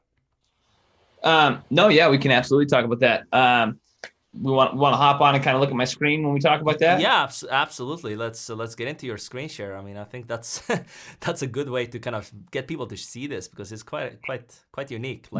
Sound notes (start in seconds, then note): 10.2 laughs